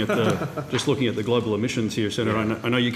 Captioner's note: laughter